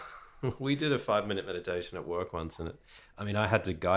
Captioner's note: laughs